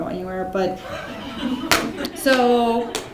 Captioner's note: laughing